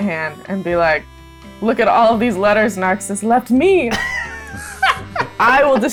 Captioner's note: laughter